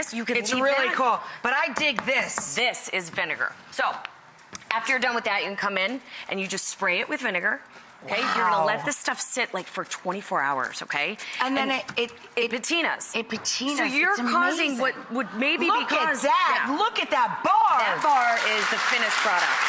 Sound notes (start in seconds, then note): 17.9 audience applauds